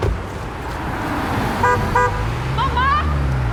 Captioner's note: honking